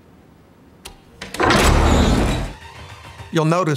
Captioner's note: vault door creaking